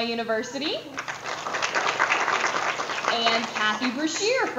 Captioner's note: audience applause